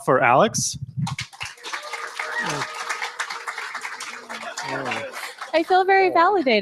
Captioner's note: applause